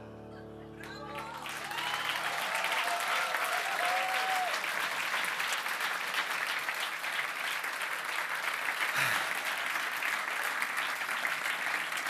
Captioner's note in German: Applaus